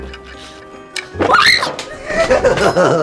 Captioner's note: cookie breaking; screams; Pennywise laughs